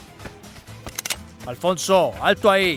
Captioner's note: in Spanish